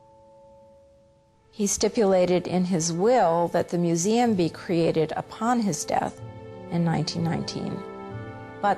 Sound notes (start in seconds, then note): 1.7 voiceover